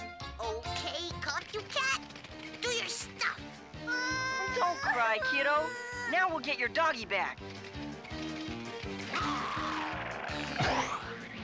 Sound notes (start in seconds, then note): 3.8 Panky crying; 9.1 growls